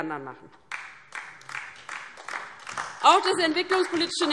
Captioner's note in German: Beifall DIE LINKE und SPD